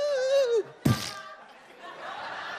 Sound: noise of splat; audience laughs

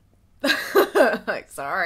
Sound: laughs

